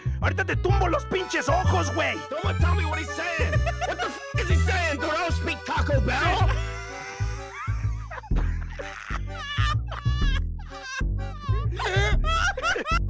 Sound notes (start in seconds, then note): 3.3 laughter; 6.4 wheeze